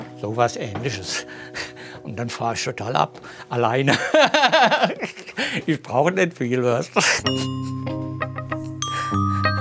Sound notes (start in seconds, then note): 3.9 hearty laughter